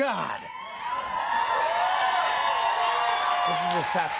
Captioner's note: cheers and applause